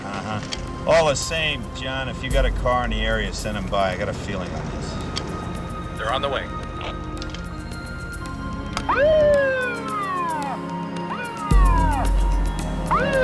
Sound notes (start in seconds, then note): 7.6 suspenseful music; 9.1 siren wailing